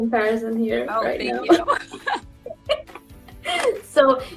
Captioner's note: both laughs